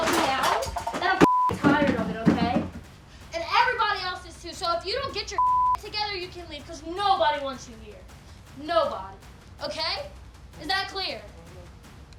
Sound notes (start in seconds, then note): 1.2 beep; 5.3 beep